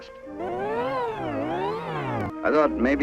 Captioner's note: wildly distorted sobbing